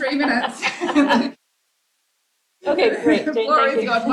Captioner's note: laughter